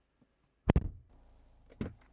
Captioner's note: door Thud